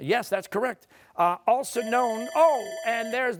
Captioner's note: bell dings